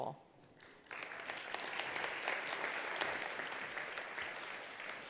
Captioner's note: attendees applauding